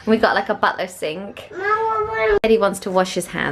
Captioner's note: child whines